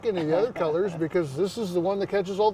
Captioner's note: chuckling